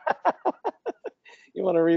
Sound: laughs

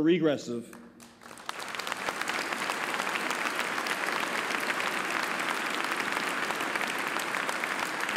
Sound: applause

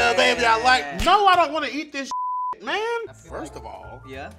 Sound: beep

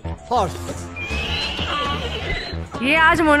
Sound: cacophony of neighs and brays

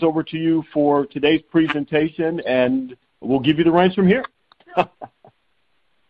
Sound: chuckling

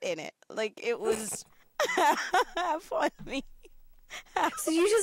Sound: laughs

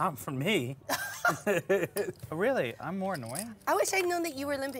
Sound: laugh

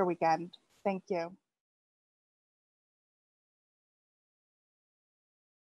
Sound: silence

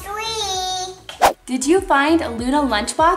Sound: whooshing

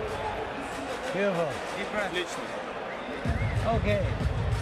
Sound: chatter

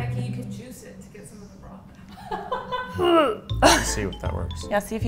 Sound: laughing

